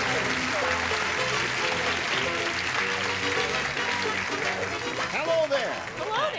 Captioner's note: applause